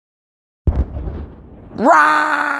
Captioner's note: bannng